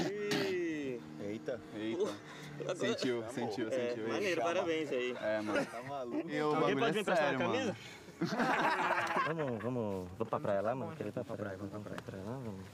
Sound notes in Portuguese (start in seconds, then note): 8.1 todos rindo